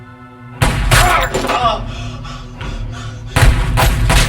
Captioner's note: gunshot fires; Dr. Broward grunts; gunshots firing